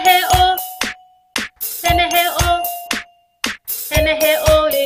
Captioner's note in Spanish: clap; clap